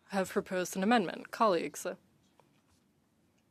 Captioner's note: speaking French